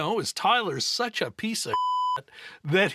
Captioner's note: beep